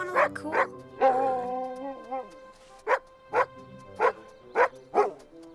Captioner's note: Buck barking